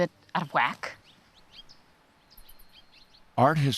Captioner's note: birds chirping